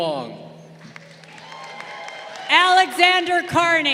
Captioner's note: crowd cheering